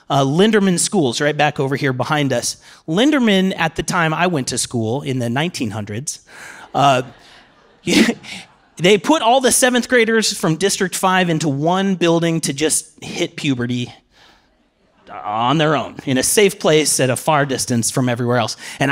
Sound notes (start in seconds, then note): 6.7 laughter